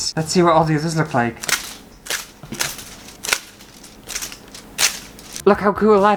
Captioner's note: foil Ripping